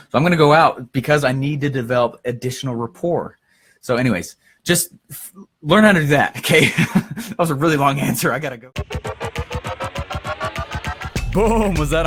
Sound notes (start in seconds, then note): 7.4 laughs; 8.7 instrumental music